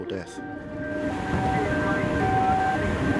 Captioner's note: siren blaring